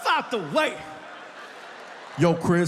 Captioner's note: audience laughs